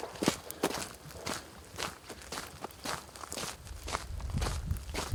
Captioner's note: footsteps on gravel road